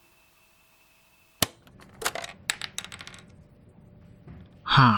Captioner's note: clack and clatter as tape ejects